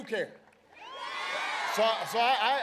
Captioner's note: applause